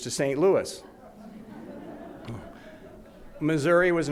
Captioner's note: audience laughs